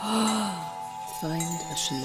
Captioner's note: gasps